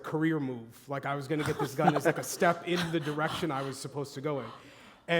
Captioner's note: laughter